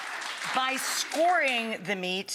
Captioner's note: audience applauds